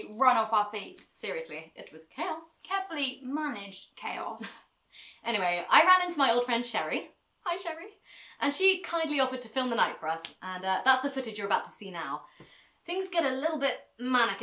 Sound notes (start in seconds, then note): 7.5 high voice; 8.4 normal voice